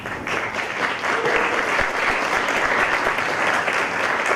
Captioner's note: applause